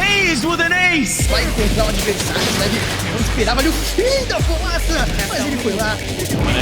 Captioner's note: foreign shoutcasters commentating